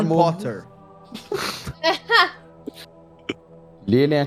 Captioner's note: laugher